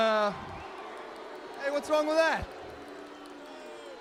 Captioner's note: crowd cheering